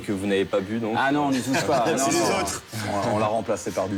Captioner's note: hubbub